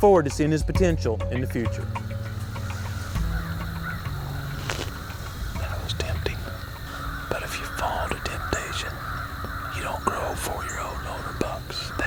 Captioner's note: whispering